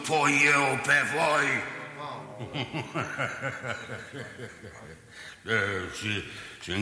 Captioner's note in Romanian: Râsete